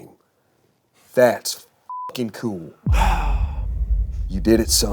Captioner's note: beep